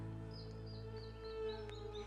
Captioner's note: gentle music; birds chirping